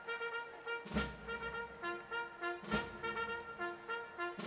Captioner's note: none